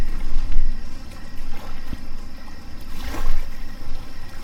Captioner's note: water sloshing